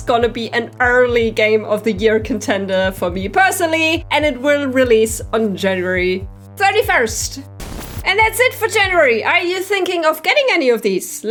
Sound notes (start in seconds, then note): 7.6 white noise